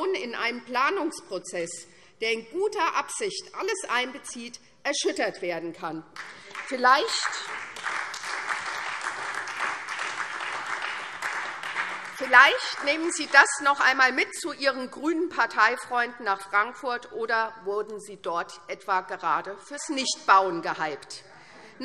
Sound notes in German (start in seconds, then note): 6.1 Beifall SPD und Freie Demokraten